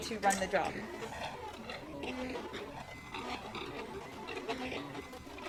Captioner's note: machine motors